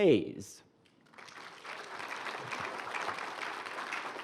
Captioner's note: applause